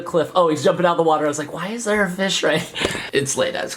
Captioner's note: laughs